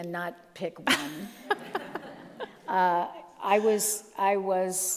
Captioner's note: all laugh